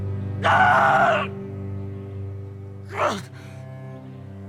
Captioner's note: Arawn screaming